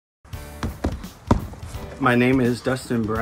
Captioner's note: bright music; person punching